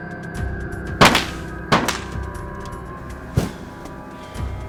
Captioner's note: guns fire